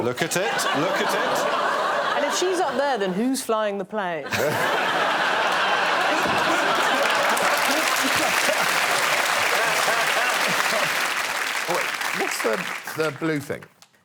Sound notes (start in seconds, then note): 4.2 laughter